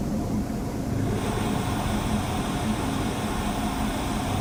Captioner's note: static hissing